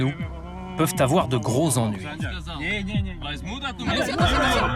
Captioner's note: uzbek spoken language